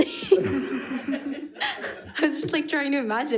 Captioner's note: people laughing